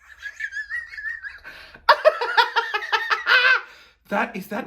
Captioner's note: laughing